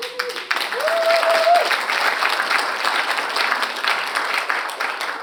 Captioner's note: audience applauds